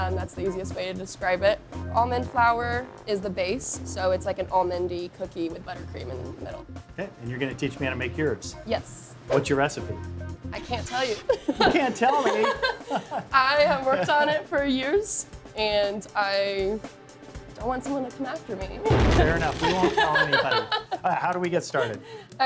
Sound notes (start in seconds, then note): 11.0 both laughing; 11.1 chuckling